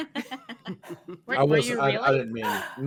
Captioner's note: all laughing